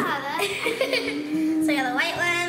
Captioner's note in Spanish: risa